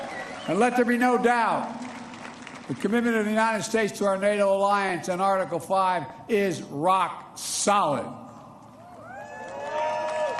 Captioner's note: applause